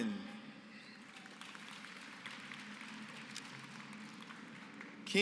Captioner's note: applause